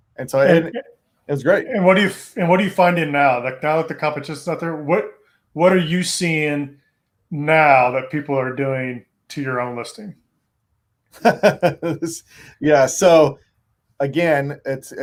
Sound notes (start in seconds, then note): 11.2 laughs